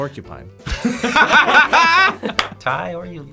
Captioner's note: group laughs